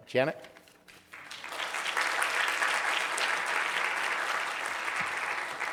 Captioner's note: audience applauding